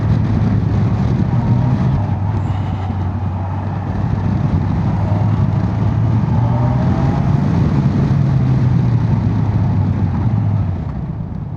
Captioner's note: engine thrum